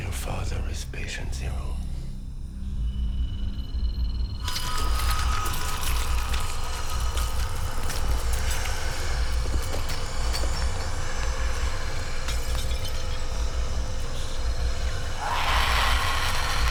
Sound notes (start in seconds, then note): 6.3 squelching